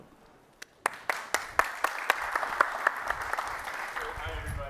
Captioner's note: applause